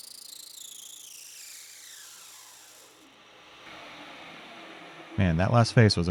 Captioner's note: machine whirring continues